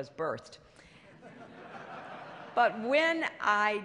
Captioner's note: laughter